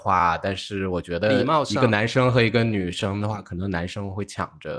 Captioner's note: politely